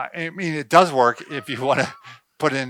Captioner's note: laughs